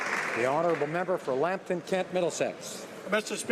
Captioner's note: some Applause